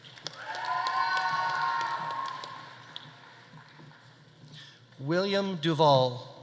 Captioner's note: audience applauding; audience cheering